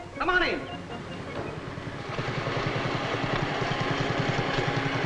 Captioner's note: motor rumbling